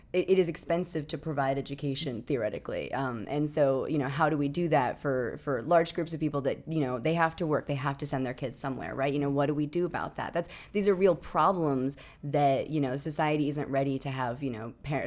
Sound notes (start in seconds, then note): none